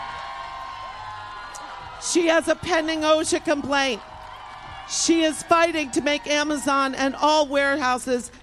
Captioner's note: applause